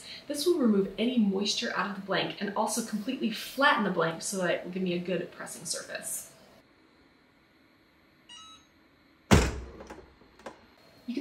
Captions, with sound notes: This will remove any moisture out of the blank and also completely flatten the blank so that it will give me a good pressing surface. (AutoPress beeps) (AutoPress latch thuds)